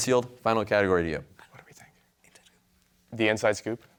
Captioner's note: team whispering